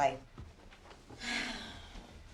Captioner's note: sighs